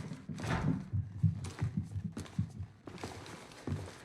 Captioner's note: footsteps pounding